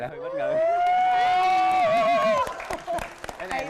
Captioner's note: cheering; applause